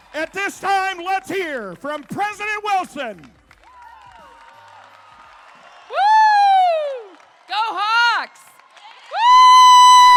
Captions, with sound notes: At this time let's hear from President Wilson. (crowd cheering) - Woo. Go Hawks. Woo.